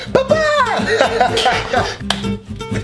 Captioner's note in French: Rire